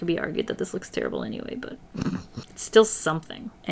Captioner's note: chuckles